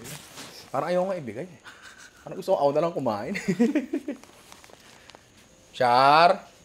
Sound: laughs

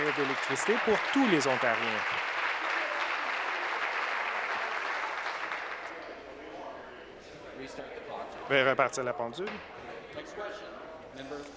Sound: applause

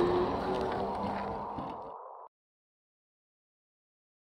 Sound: car speeds off

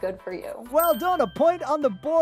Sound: bell dings

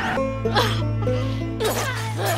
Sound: sobbing

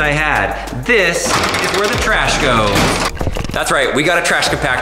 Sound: creaking

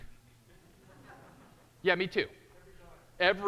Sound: audience chuckling

